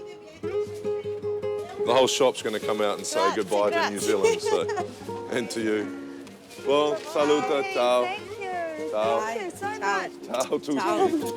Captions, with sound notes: The whole shop's gonna come out and say good bye to New Zealand. And to you. (speaking in Italian)